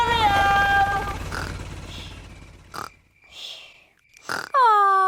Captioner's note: baby alexander snoring